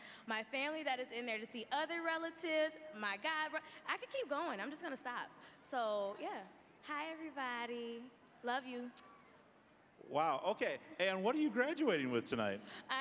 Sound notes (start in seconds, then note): none